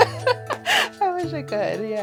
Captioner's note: laughter